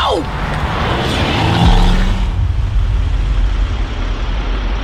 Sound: engine revving

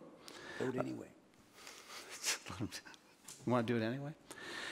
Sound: board member snickers

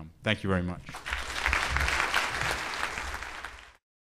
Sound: clapping

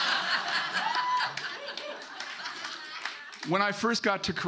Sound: audience laughing; audience clapping

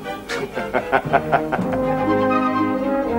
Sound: chuckles

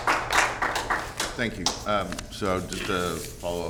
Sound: applause

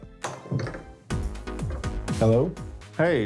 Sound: door opens

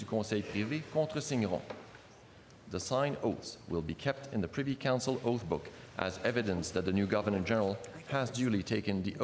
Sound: speaking French

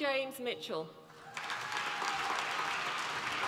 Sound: applause

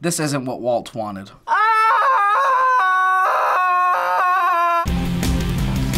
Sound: screams; rock intro

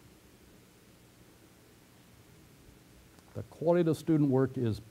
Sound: pause

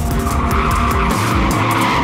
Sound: tires squealing

